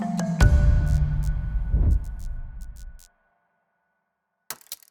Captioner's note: neon buzzing; ticking